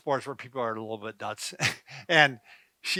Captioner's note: chuckles